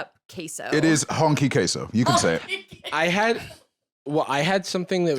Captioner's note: laughing